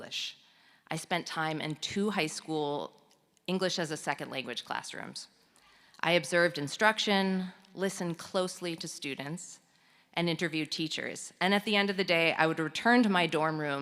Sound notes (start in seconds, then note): none